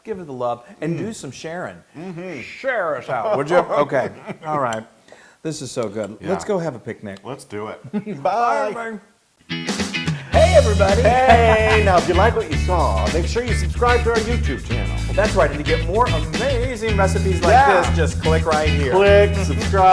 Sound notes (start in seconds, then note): 2.9 laugh